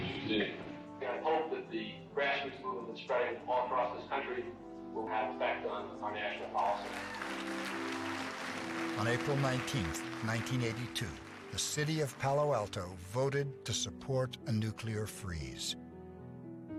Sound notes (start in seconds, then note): 6.6 group applauding